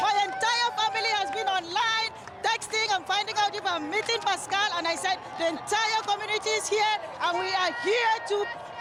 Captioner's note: cheers